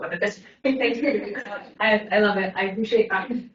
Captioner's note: everyone laughs